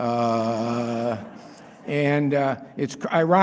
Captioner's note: laughter